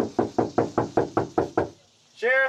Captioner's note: knocking on door